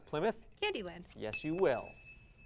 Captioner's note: ding